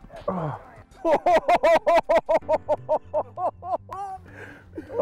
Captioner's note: laughter